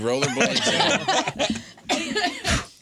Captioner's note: laughing